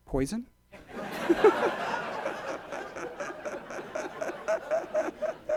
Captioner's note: audience laughs